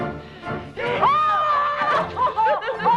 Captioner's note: Hundra grunts; Tracima gasps; Hundra yells; both laughing